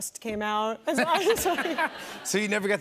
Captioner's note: laughter